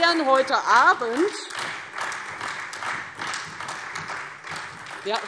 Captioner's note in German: Beifall Freie Demokraten, SPD und DIE LINKE